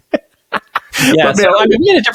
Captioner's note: laughing